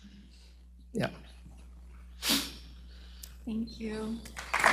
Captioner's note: sniffs